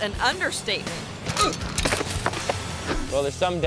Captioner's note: biker clatters; biker groans